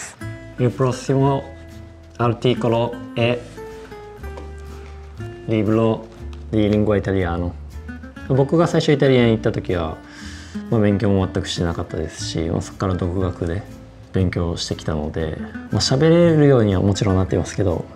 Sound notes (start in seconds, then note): 2.6 in Italian; 6.9 in Italian